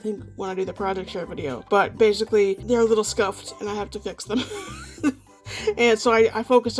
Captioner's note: laughs